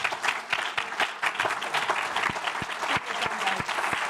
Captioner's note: audience claps